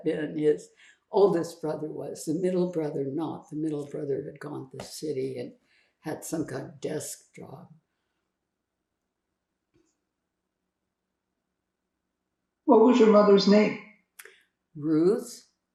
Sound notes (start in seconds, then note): 7.8 pauses 4 seconds